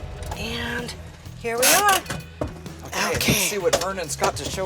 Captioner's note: parking brake clicking